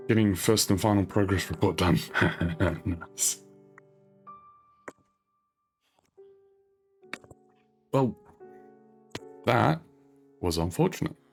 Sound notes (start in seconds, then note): 0.0 soft music; 3.3 laughs; 3.3 soft music